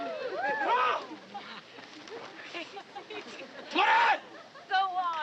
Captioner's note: shouting in Japanese